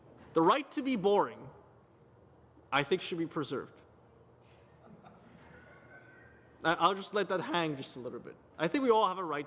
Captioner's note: laughter